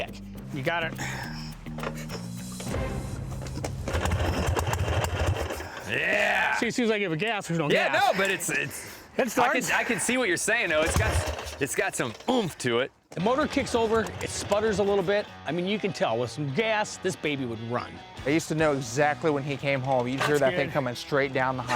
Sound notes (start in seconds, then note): 3.0 motorcycle engine sputtering